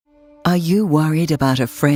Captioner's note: voiceover